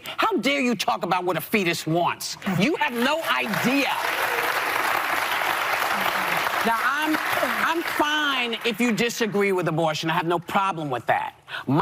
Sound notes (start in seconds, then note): 2.6 crowd applauding